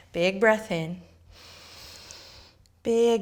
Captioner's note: inhaling